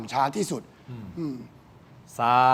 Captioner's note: laughs